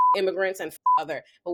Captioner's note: beep